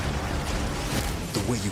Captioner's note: loud boom